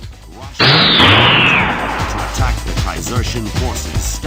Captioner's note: video game sounds